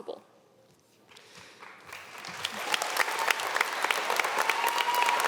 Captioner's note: audience clapping